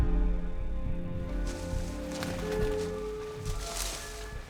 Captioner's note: rustling